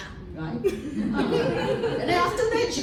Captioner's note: laughter